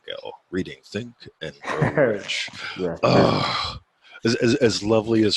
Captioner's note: groans